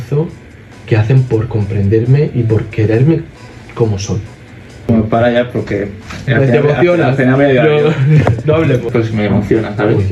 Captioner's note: laughs